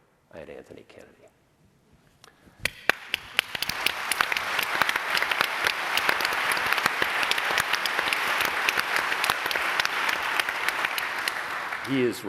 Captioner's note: applause